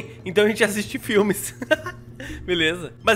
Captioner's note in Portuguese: risos